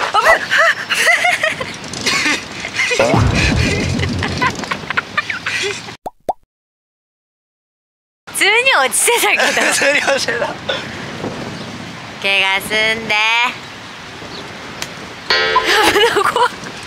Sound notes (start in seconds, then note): 3.4 laughs